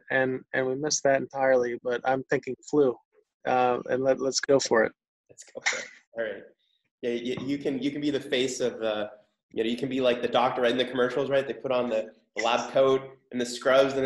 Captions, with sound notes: and we missed that entirely, but I'm thinking flu and let's go for it (laughs). - You can be the face of the... You can be like the doctor in the commercials, they put on the last code and the scrubs